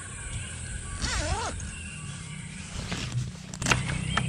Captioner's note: the sound of the zipper opening